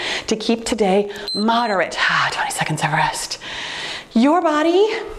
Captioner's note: timer beeps